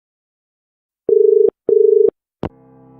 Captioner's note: dial tone